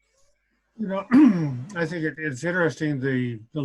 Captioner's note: clears throat